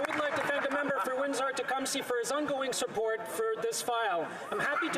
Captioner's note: some Applause